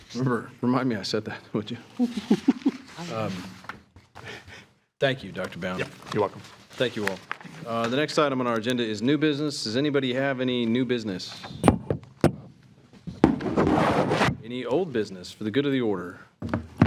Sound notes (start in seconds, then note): 2.0 trustees chuckling